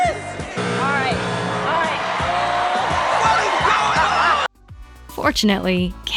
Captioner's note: buzzer